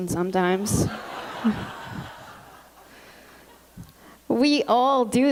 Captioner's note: laughter